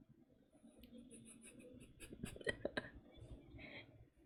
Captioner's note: laughs